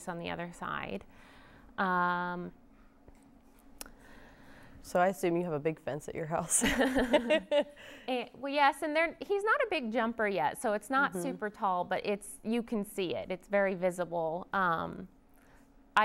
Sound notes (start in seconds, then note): 7.4 laughs